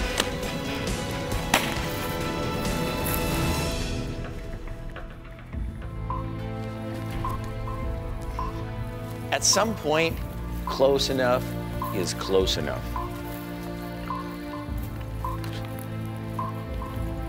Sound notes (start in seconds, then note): 1.4 gunshots ring